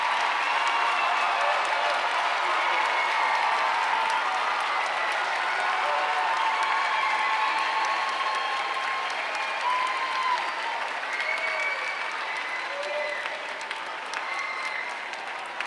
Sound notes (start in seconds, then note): 3.1 applause